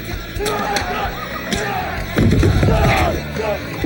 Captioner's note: shouts